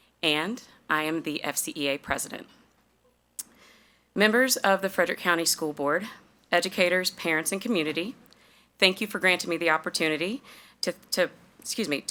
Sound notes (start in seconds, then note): none